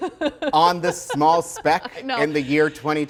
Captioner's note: laughing